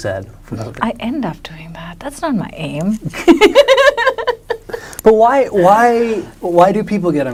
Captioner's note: laughs